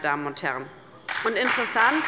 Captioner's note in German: Beifall bei der LINKEN und der SPD